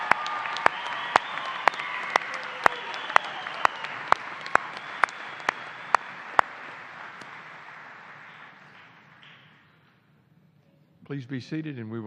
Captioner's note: cheers and applause